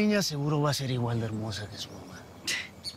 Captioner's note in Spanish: Ríe